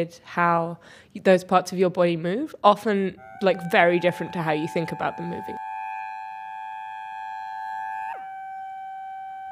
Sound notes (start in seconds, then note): 5.6 digital sound